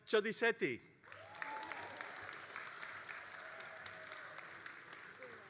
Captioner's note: all applauding and cheering